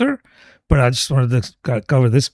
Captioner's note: uh